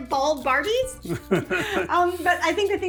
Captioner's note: dad chuckles